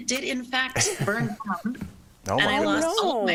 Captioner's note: laughter